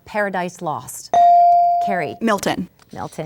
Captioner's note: ding